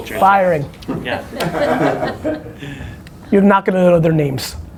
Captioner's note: all laugh